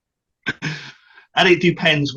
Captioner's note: laughs